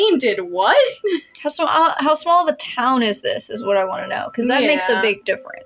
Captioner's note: chuckle; stammer